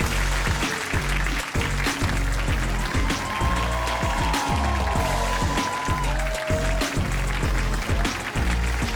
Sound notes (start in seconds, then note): 0.1 upbeat music; 4.1 audience applauds